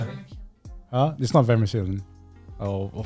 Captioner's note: speaking in foreign language